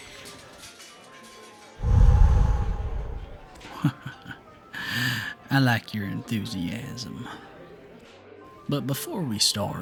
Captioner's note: chuckles